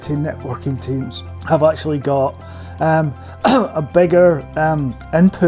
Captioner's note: cough